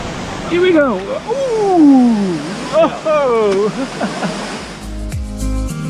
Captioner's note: feet in cold water